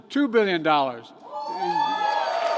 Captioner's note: applause